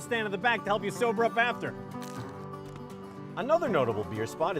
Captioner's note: crunching